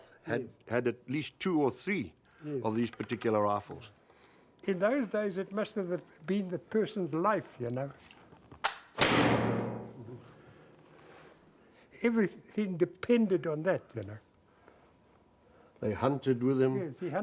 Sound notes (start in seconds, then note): 8.9 click, bang!